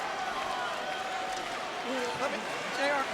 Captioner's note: audience cheering